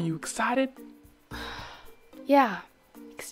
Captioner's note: annoyed sigh; sarcastic